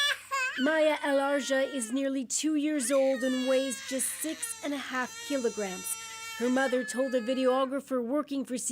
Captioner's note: crying baby